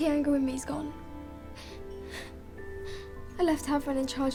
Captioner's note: whimpers